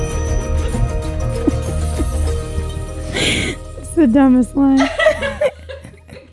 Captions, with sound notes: (upbeat music) That's the dumbest line. (laughing)